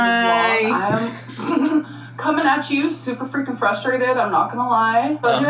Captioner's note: chuckling